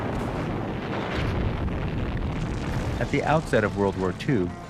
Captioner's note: explosions